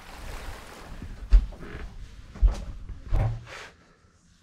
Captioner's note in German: Schritte